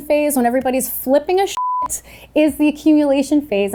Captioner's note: beep